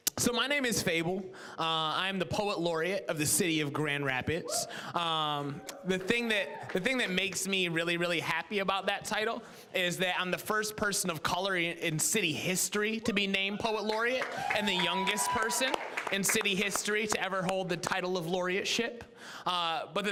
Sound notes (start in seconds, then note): 5.4 scattered cheering; 13.0 audience cheering